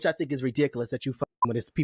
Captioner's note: beep